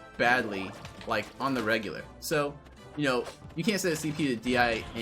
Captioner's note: none